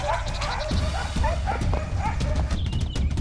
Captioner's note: dogs barking